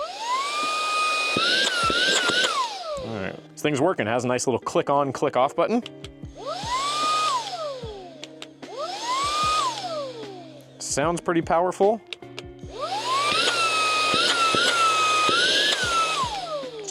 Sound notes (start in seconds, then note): 0.0 vacuum sounds; 6.3 vacuum noise; 12.6 vacuum noise